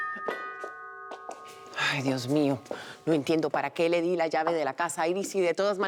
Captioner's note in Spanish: Timbre de la puerta